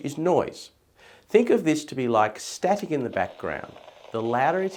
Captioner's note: static